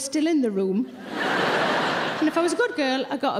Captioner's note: audience laughing